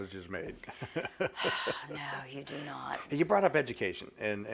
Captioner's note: laughs